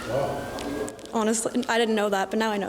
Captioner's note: laughing